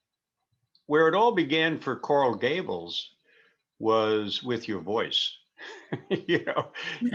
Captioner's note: laughing